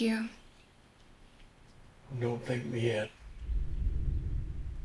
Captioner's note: booming